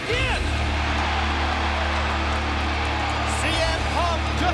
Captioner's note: crowd cheers; intense rock theme music